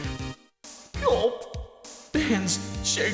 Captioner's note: gulp